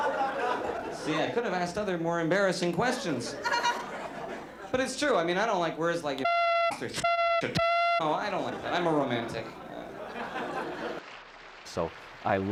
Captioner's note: laughter